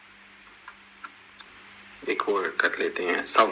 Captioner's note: call ends